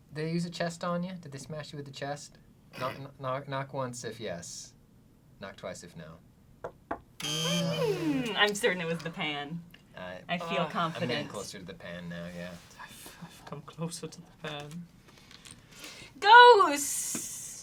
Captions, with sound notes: They use a chest on you? Did they smash you with a chest? Knock once if yes, knock twice if no. (knocks twice) (buzzing) - I'm certain it was the pan. I feel confident. - I'm getting closer to the pan now, yeah. - I'm closer to the pan. - Ghost!